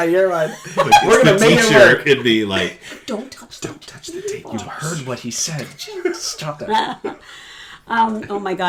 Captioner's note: laughter